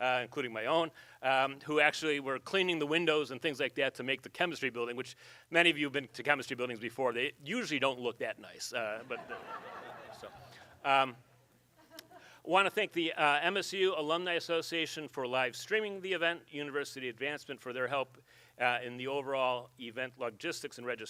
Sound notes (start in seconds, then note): 9.0 audience laughs